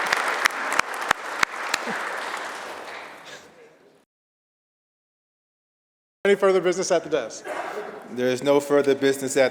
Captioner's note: applause